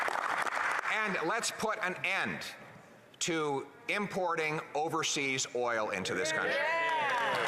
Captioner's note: applause